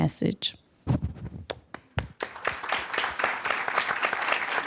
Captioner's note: applause